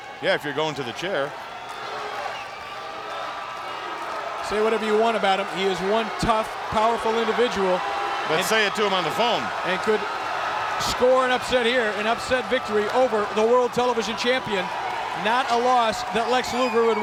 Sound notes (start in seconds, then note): 1.3 audience chanting and clapping